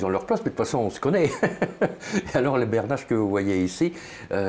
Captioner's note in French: rire